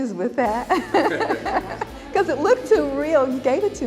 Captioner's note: laughing